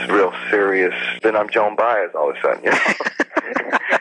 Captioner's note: laughs